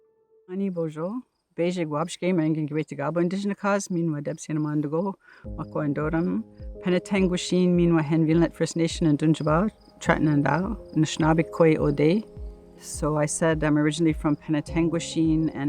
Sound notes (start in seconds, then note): 0.7 Speaking in Anishinaabemowin